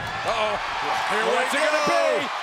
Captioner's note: audience cheers